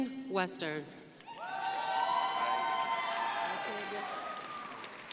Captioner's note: crowd applauding